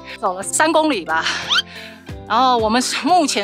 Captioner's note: gasp